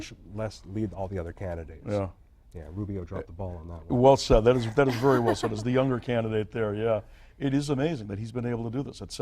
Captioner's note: laughter